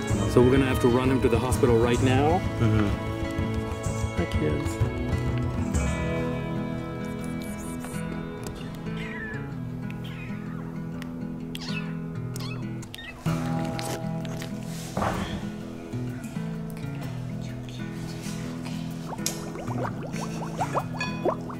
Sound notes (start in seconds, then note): 8.8 meows